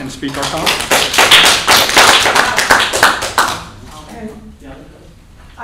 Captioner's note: applause